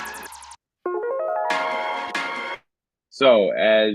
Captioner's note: chimes